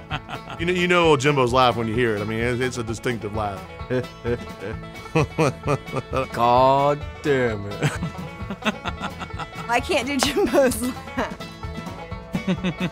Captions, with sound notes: you know Jimbo's was laughing when you hear it. I mean, it's a distinctive laugh. [imitating Jimbo's laugh] Gooooddamit! I can't do Jimbo's laugh.